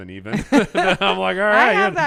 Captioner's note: both laugh